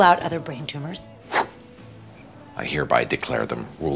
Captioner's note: blows